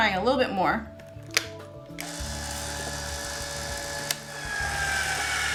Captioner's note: machine operating